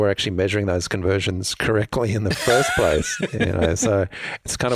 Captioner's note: laughs